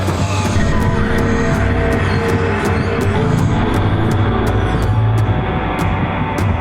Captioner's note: drum beating; voices chanting